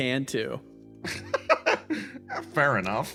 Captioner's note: laugh